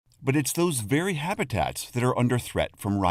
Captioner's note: voice-over